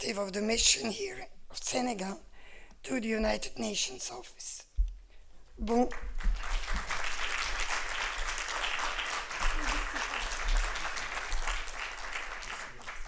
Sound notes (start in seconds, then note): 5.7 applause